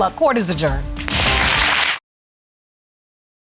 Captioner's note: audience applauding